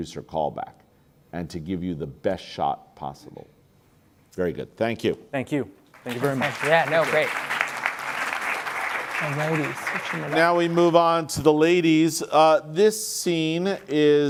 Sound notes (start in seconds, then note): 5.9 applause